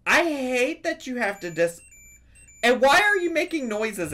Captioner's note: Tamagotchi beeps